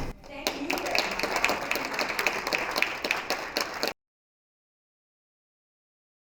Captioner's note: applause